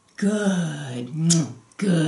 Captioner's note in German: smooch